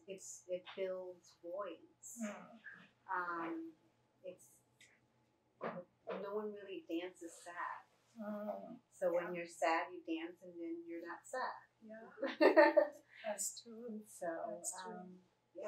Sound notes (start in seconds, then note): 12.2 laughter